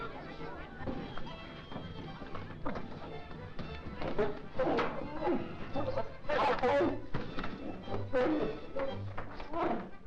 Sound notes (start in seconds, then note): 1.0 whip thudding; 7.5 lion snarling